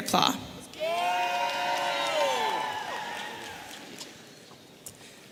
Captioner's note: audience cheering